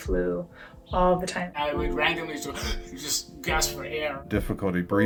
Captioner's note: inhales quickly